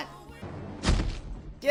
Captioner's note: sad thud